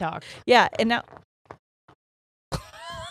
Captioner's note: Birdie scratching; laughing